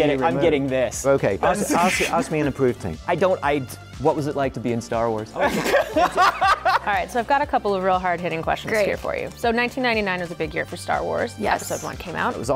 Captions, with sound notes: - And so they're getting-- I'm getting this. - OK. Ask me an approved thing. - I don't-- I-- what was it like to be in "Star Wars?" [LAUGHTER] - All right, so I've got a couple of real hard hitting questions-- - Great. - --here for you. So 1999 is a big year for Star Wars. - Yes. - Episode I came out.